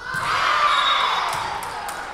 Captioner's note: whistle blowing; Lions cheering